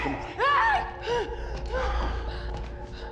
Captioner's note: screams